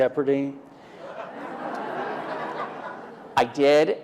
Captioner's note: laughter